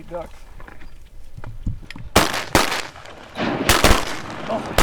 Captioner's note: gunshots